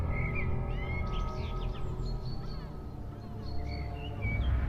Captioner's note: birds chirping